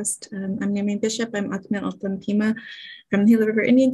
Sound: foreign Language

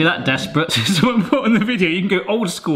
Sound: laughing

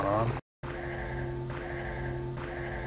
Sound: heathy Breathing

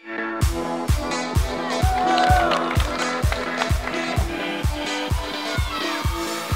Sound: upbeat music; families cheering

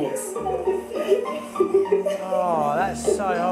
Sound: girls laughing

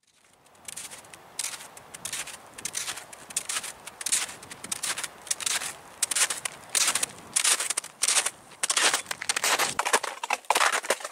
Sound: noise of snowshoes walking on snow & ice

